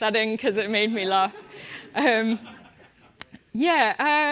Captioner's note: laugh